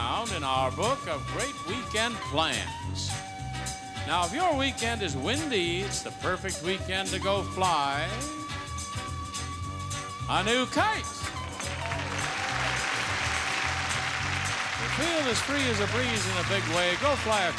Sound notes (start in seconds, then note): 11.3 audience applauding